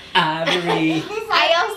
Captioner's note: laughter